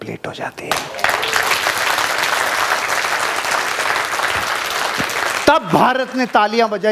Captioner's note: rounds of applause